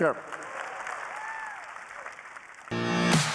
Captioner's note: applause